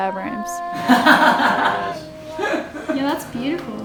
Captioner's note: laughing